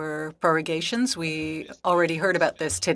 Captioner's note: speaking French